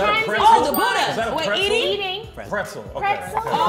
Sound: bell dings

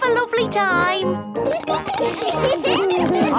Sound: laughter

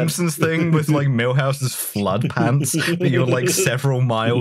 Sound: laughs

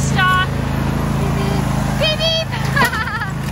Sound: car honking; laughs

